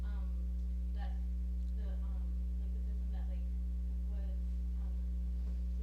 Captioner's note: speaking off mic